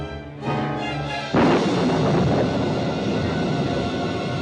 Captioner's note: thunderclap